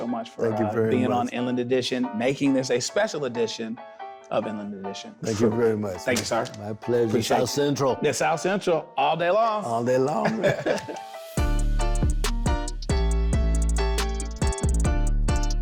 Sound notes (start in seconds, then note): 10.1 chuckles